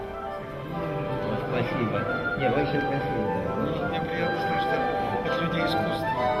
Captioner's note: laughs; men speaking in Russian language